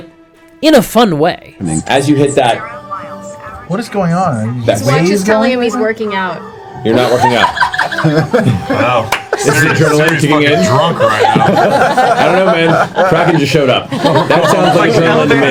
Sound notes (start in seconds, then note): 1.8 watch talking; 10.4 all laugh